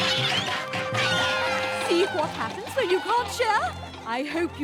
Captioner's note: screams